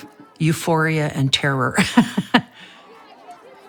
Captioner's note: laughing